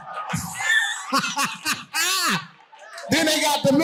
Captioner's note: audience laughing